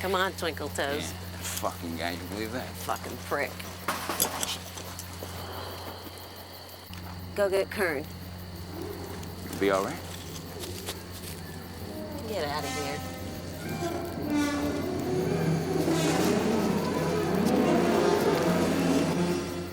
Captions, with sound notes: - Come on, twinkle toes. - That fuckin' guy, do you believe that? - Fucking prick. (clattering) Go get Kirn. - You gonna be all right? - Get outta here. (dramatic eerie music)